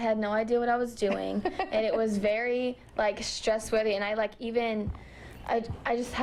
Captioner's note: laughter